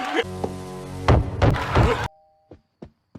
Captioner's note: Homer Laughs; Loona Knocks On Door